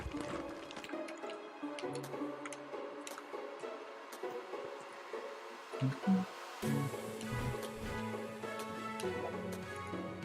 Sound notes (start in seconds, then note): 5.8 humming along